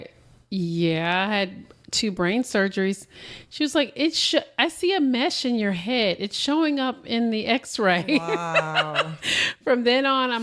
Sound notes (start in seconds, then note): 7.9 laughter